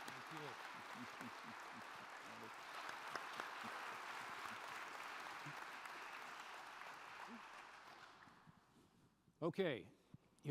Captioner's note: applause